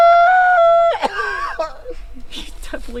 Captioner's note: coughing